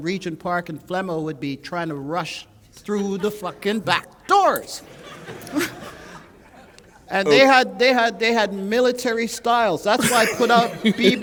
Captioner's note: laughter